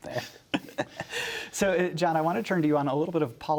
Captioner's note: laughter